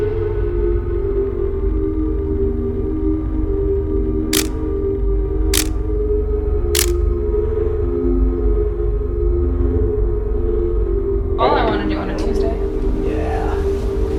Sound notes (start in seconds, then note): 4.3 camera clicking